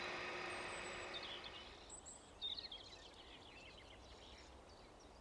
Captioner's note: birds twittering